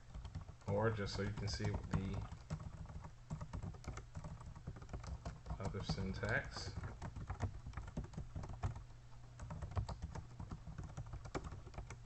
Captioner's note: typing sounds